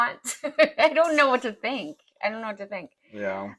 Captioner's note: laugh